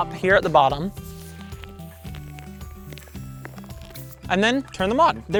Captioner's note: light inflating